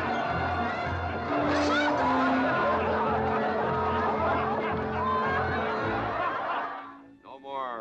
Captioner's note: triumphant music; crowd cheering